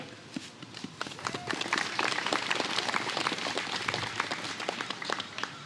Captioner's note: applause